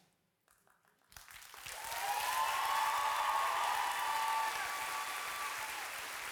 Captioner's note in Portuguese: audience cheering and applauding